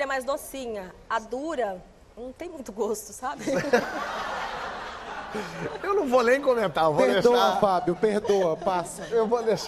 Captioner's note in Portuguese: risos